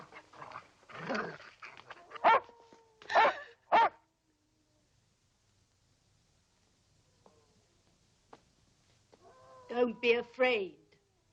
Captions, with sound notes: (dog barking) - Don't be afraid.